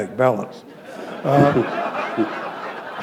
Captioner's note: laughter